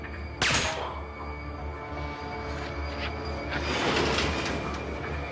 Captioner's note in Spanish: Disparo